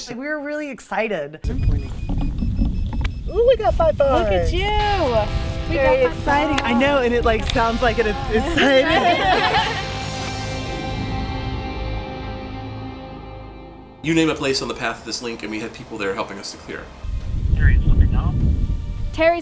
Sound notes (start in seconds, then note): 1.4 beeping; 9.1 laughter